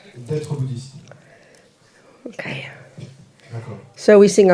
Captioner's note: French